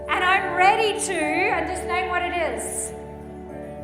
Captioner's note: none